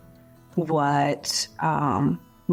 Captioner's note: none